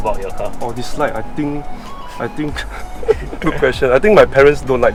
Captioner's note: laughs